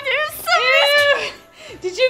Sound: laughs

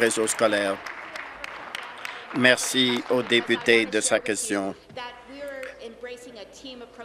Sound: applause

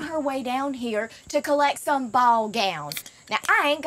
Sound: beer can popping

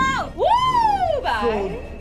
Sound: cheering

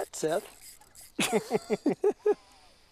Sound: laughter

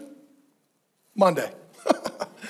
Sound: chuckles

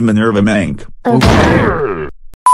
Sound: Thwomp Sound

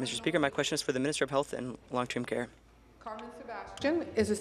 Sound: speaking in French

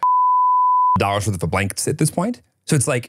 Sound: beep

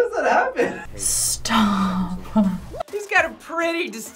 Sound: laughs

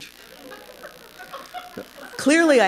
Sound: laughter

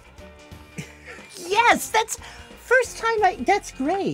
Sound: laughs

